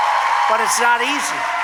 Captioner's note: applause